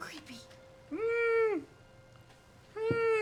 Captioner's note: whimpers